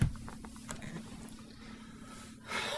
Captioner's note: deep sigh